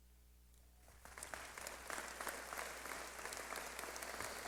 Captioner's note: clapping